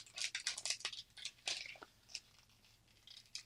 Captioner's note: sheet cracking